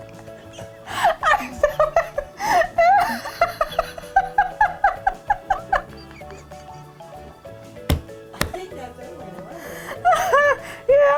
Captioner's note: laughing